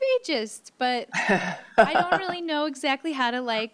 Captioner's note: chuckles